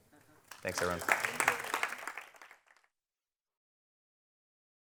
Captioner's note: crowd applauds